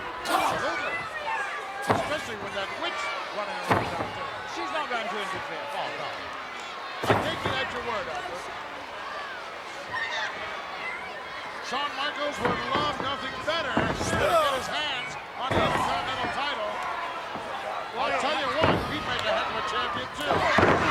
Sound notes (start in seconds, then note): 9.1 applause; 19.8 applause